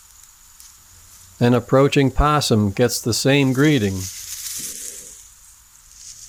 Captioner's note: skunk growls